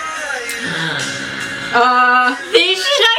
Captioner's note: gasps